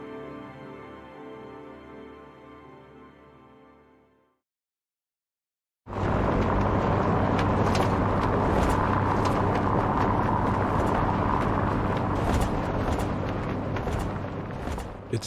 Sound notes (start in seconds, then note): 6.8 tires rumbling